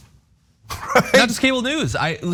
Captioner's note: laugh